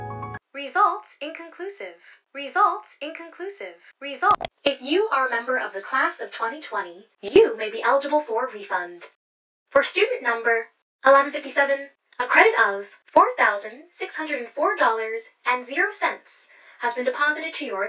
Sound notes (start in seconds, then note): 0.0 piano crescendo; 4.3 click